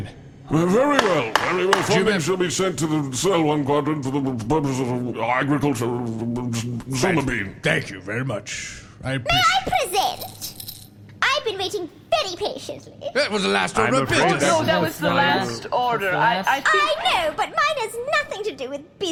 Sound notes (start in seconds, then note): 0.9 bangs gavel; 10.3 shakes rattle